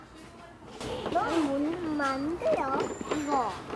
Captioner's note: speaks korean